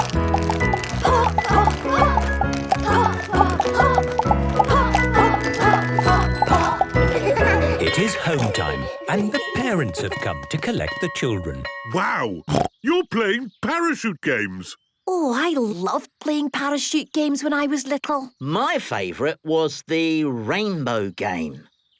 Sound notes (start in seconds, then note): 7.0 laughter; 12.5 snorting